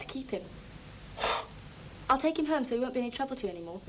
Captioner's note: McIntyre scoffs